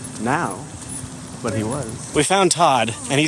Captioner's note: quieter